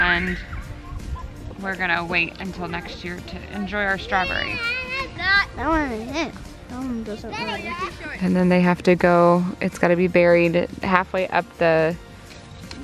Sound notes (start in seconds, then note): 4.0 child exclaims